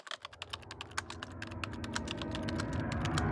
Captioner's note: typing